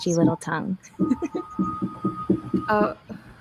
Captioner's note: giggles